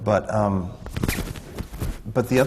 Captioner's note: none